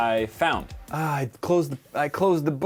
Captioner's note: exasperated